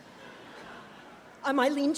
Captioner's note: audience chuckles